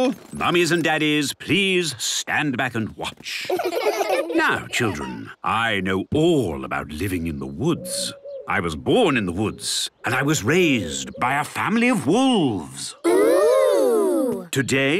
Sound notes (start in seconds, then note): 3.4 laughter